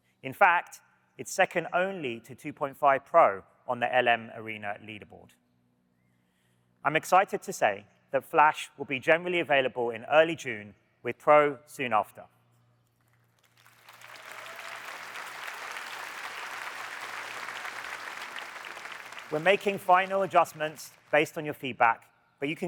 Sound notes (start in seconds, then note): 13.1 applause